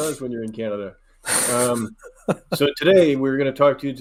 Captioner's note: chuckling